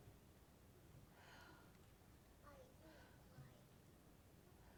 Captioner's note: woman exhales